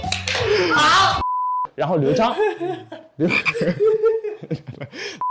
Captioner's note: can't stop laughing